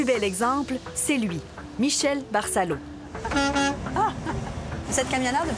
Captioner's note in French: coup de klaxon; rire